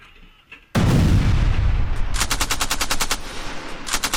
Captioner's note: explosion bangs; gunfire rattling